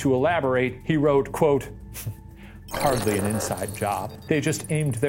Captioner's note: scoffs